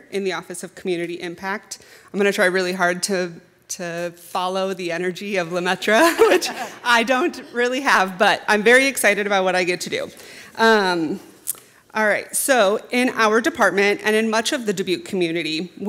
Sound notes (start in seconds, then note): 6.0 chuckling; 6.0 chuckles